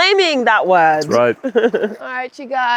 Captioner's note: laughs